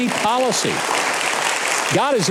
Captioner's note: audience clapping